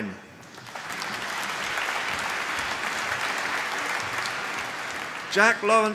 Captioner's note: applause